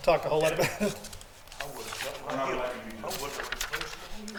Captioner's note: council members talking distantly; papers shuffling